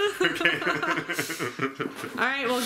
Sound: laughing

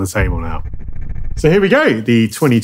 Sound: transition reverberates

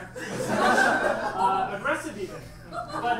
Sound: audience laughs

